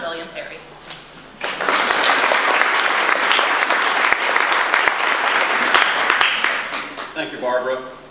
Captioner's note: audience applause